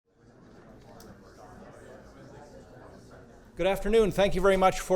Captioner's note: audience chattering